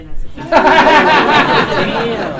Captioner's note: laughter